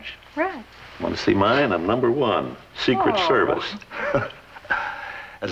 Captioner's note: chuckles